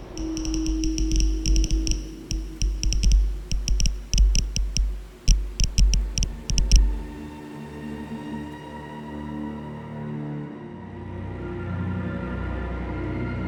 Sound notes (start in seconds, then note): 0.0 sensor crackles; 9.7 quiet, mournful music